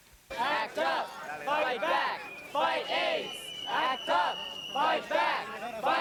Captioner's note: crowds chanting